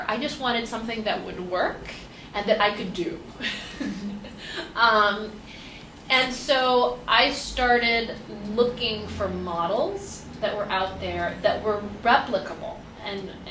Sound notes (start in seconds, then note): 3.3 laughs